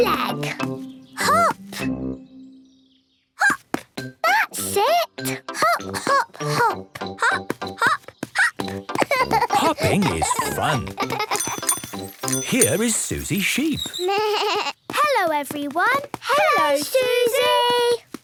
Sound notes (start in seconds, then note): 11.4 bike bell; 13.7 bleating